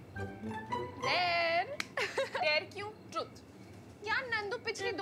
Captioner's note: Laughs